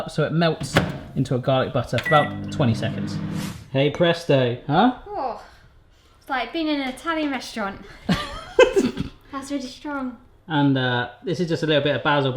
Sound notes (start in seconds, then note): 2.0 beep; 7.6 laughs